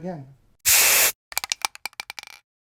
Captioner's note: spray paint bottle fizzing; marble jumbling